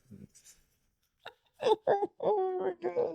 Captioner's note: laughing